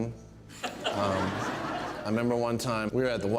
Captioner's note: crowd laughing